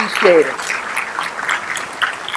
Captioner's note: applause